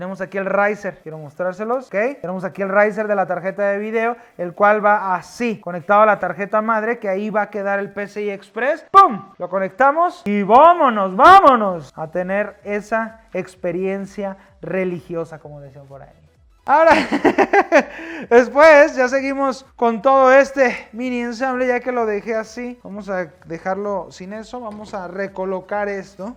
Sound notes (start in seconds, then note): 16.8 laughs